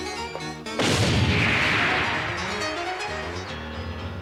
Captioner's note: explosion